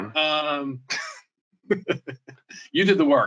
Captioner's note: laughs